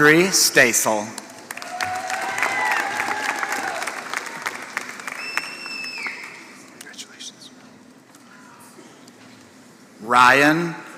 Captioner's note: applause